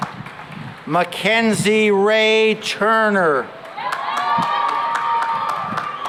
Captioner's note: cheering and applause